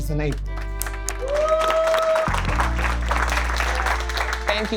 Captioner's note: clapping and cheering